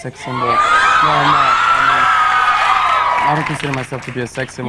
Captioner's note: audience cheers